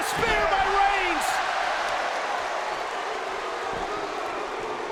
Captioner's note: audience cheers